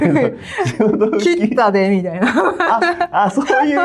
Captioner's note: laughs